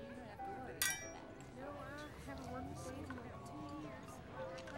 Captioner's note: glasses clinking